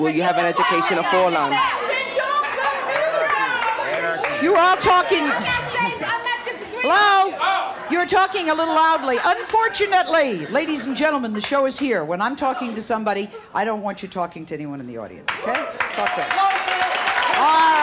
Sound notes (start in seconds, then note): 1.7 women yelling at each other; 15.2 audience clapping and cheering